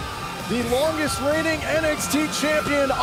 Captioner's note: crowd cheering